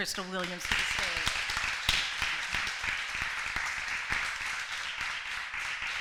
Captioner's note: applause